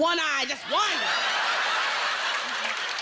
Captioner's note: laughter